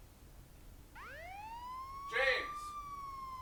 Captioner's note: siren through phone